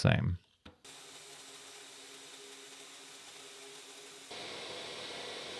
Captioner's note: milling machine whirring